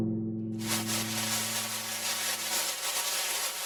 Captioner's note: fireworks